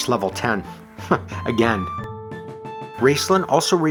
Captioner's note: chuckles